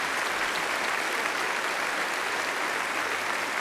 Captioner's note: applause